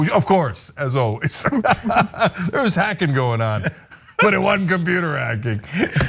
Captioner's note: laugh